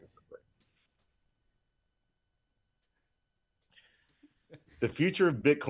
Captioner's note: laughing